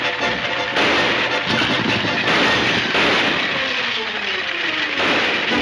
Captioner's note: gunshots banging